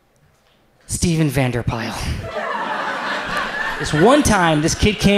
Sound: audience laughs

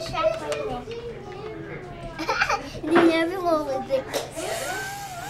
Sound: laughs

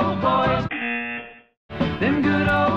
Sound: buzzer

